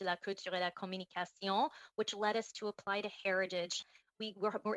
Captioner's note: speaking French